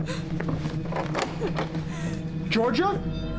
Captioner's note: rattles doorknob